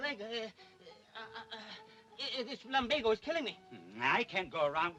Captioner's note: stammering